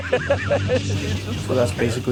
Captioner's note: men laughing